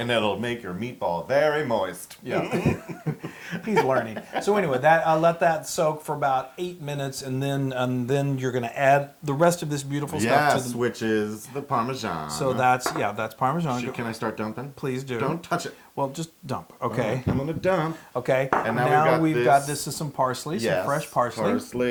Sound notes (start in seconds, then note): 2.3 laugh